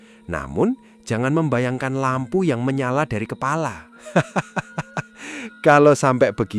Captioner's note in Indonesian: tertawa